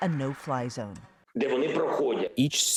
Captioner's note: speaking foreign language